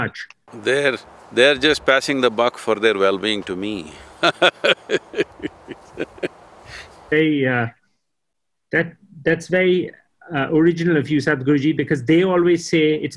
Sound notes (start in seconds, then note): 7.3 laughs